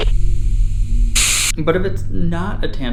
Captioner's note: static